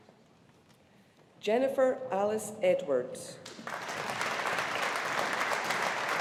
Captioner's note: audience applauding